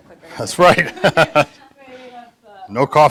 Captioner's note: laughs